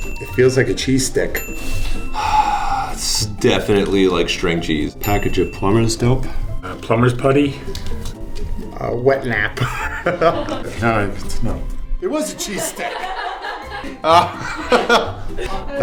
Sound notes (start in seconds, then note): 0.0 ding; 5.0 ding; 9.5 laughs; 12.6 laughter